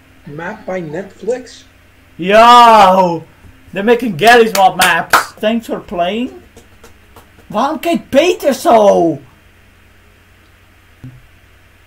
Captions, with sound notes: Map by Nextlix? - Yo. There making Garry's Mod maps! [clapping] Thanks for playing? Why does Peter look like that?